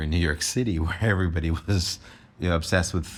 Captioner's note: chuckles